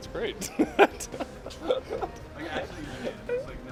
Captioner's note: laughter